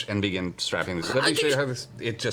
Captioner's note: confused stuttering